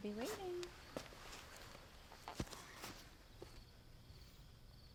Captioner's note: crickets chirping